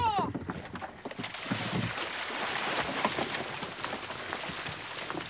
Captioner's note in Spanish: salpicaduras